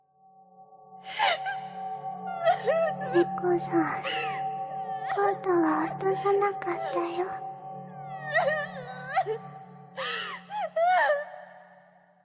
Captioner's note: crying